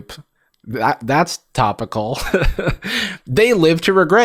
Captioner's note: chuckles